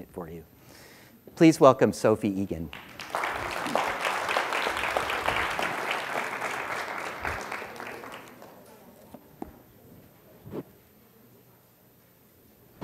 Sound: applause

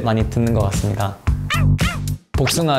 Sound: woof woof!

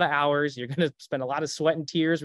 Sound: chuckles

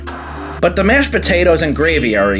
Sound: TV static

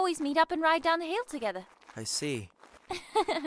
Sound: laughs

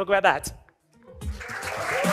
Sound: cheering and applause

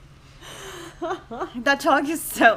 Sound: laughs

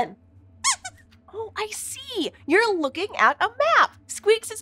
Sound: squeaks squeaking

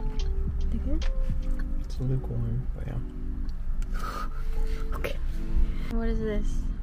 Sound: laughs

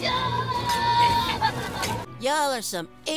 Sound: Space Kid screaming

